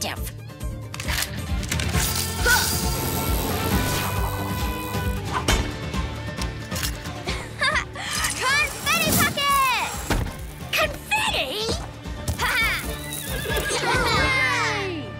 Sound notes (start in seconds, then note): 2.1 grunt; 7.2 laughs; 12.4 horse neighs; 13.3 laughs